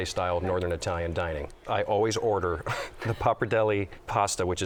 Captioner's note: chuckle